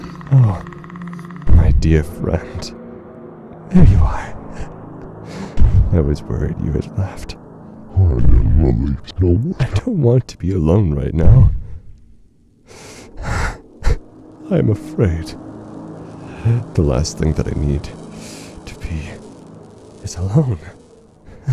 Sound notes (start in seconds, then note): 0.2 approaching stomps; 12.7 sniffling; 21.3 chuckling